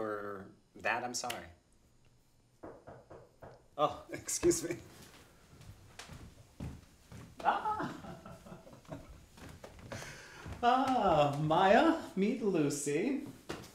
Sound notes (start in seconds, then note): 2.6 knock on door